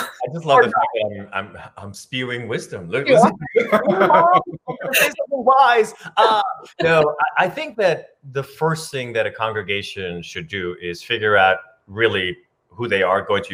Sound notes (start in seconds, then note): 3.0 laughs